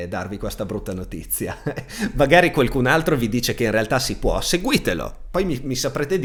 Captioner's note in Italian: risate